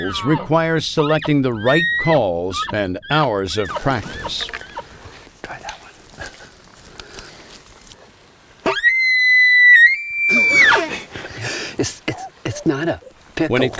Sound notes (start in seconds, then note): 8.7 elk bugle; 13.0 laughs